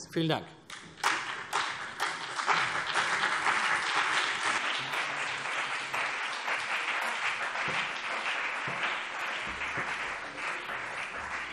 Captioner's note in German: Beifall CDU und BÜNDNIS 90/DIE GRÜNEN